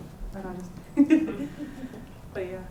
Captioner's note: laughter